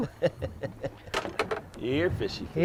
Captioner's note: laughing